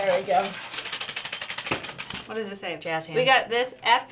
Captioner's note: ringing